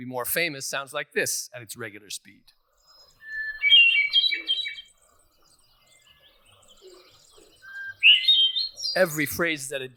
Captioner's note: bird song